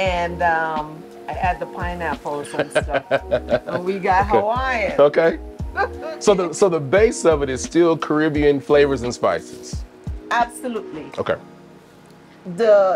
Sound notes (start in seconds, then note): 2.5 chuckles